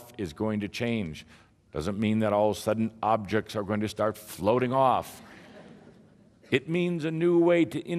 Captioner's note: some laughter